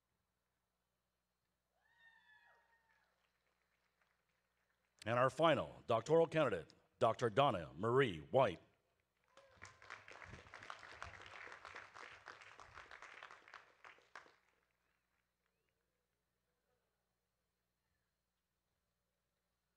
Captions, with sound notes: and our final doctoral candidate, Dr. Donna Marie White. (audience claps)